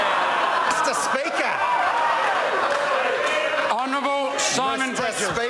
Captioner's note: members cheer